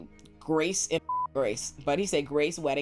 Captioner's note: beep